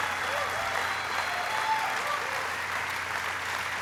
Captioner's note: applauding